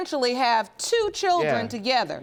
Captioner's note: none